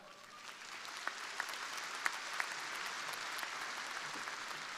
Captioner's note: crowd applauding